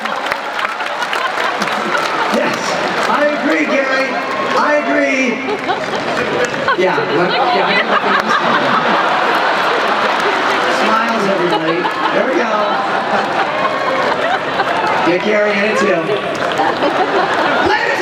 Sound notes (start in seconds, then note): 7.8 laughter